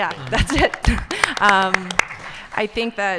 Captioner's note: audience applauding